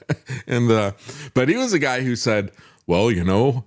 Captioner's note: laughs